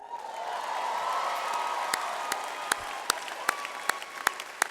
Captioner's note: audience applause